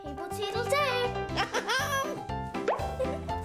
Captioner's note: laughs